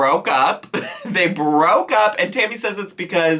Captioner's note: chuckles